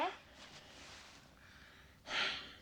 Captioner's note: sighing